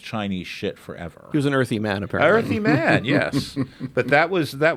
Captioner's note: laughs